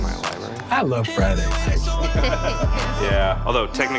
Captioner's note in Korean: 웃음소리